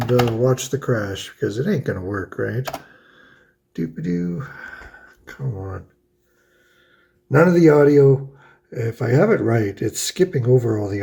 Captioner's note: happy noises